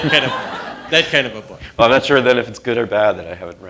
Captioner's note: laughter